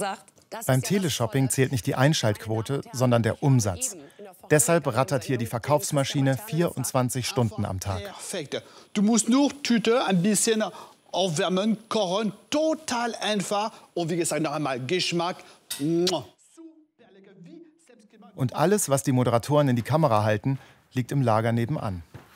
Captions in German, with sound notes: Beim Teleshopping zählt nur der Umsatz, nicht die Einschaltquote. Deshalb rattert die Verkaufsmaschine hier 24 Stunden am Tag. (mit französischem Akzent) Du musst nur Tüte aufwärmen. Total einfach. Und wie gesagt, Geschmack ... Und alles, was die Moderatoren in die Kamera halten, liegt nebenan.